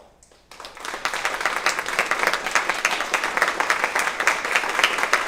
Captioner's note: audience applauds